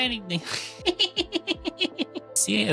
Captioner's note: laughing